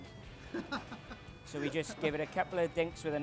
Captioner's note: laughing